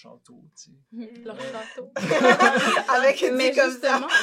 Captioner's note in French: rires